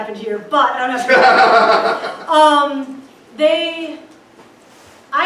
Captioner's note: crowd laughs